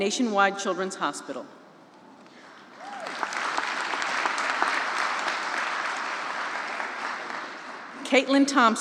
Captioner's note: applause